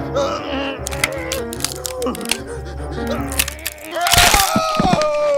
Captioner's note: bone cracking; shriek of pain